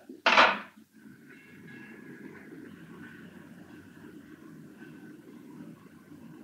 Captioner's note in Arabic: رنين جرس العربة